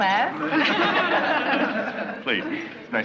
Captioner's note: laughing